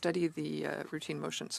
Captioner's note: speaking in French